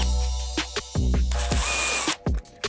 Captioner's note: drill whirring